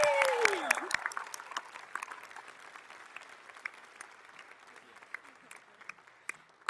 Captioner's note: audience cheering; all applauding